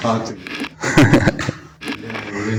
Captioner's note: laughter